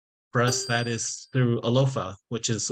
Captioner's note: bell chiming